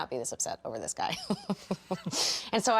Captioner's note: chuckles